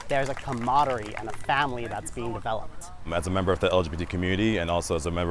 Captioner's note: applause